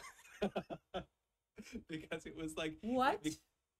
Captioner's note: chuckles